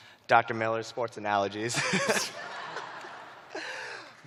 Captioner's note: chuckling; laughter